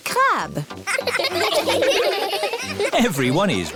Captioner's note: laughing